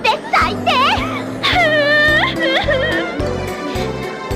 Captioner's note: Asuka cries